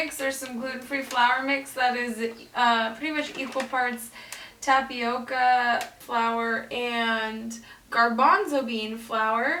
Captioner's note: none